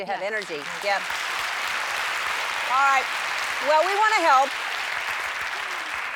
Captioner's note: applause